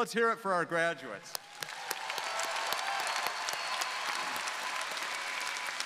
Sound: audience cheering

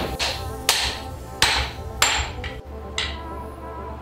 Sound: hammer pounds; hammer taps

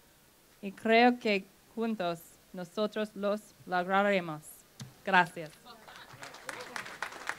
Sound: applause

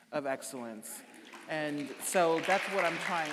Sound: audience applauding

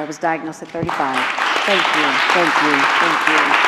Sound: applause

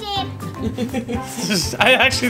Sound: mom and Dad laughing

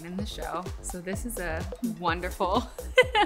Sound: laughing

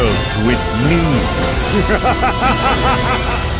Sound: laughs

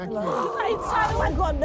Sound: gagging

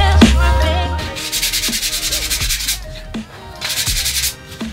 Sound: sandpaper

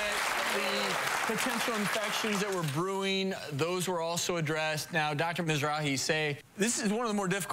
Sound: applause

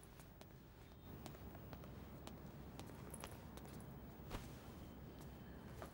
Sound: footsteps approaching

